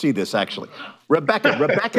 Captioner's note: laughs